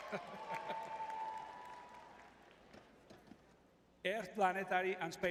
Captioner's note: crowd cheering; laughs